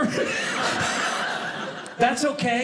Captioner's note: audience laughing